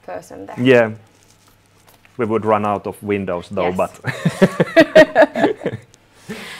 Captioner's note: both laughing